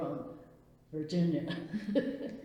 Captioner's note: laughs